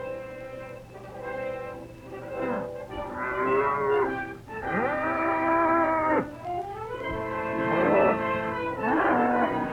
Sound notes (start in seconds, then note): 1.0 determined music; 4.5 cattle low